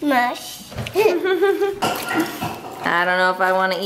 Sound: laughs

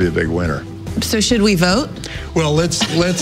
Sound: laughs

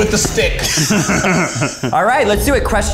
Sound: laughing

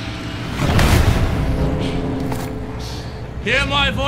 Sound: tense music; fire blazing

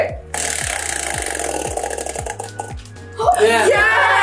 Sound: spinner rattling

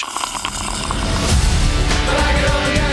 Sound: slurping through straw

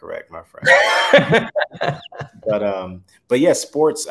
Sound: laughs

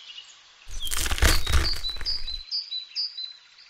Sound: crunch

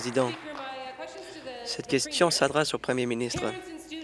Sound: applause

